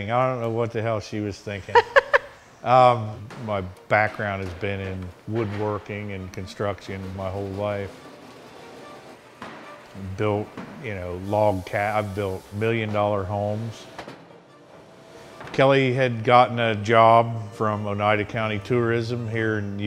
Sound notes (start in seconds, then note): 1.6 laughing